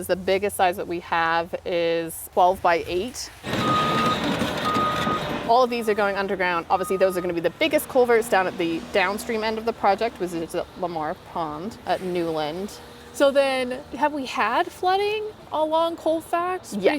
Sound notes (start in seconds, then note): 3.4 backup warning signal